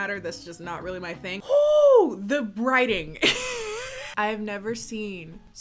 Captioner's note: laughs